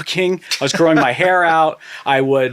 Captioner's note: laughing